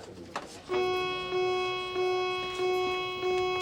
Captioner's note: alarm ringing